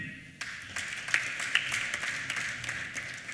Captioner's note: applause